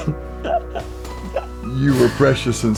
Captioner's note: laughs